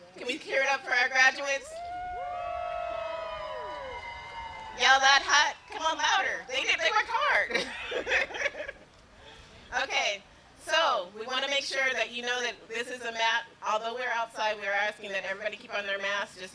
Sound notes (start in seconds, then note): 2.4 wooting